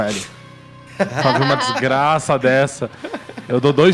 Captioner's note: laughs